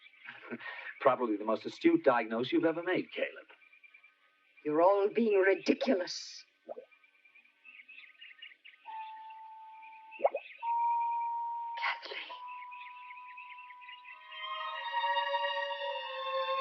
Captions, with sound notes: - Probably the most astute diagnose you've ever made, Caleb. - You're all being ridiculous. (water bubbling) (eerie orchestral music) Kathleen.